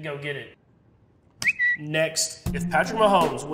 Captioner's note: bird chirping